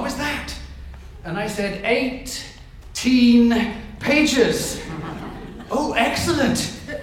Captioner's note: audience chuckles